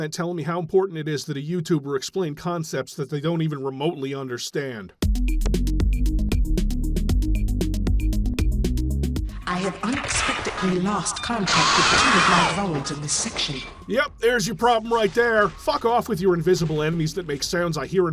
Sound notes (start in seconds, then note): 11.1 drowned out in horrible screeching sounds